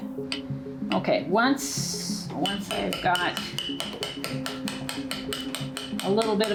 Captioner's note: tapping